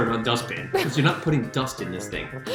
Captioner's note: laughs